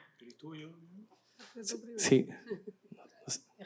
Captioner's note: non-english speech